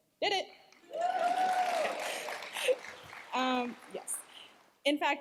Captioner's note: cheers, applause